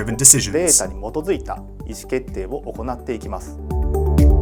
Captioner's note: speaks in Japanese; upbeat music